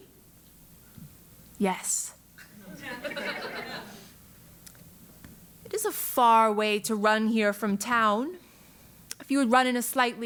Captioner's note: laugh